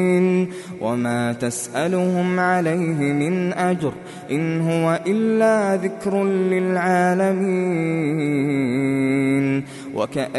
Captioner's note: reciting